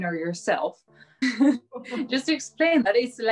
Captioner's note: chuckles